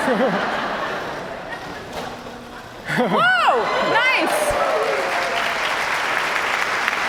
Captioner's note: cheers and applause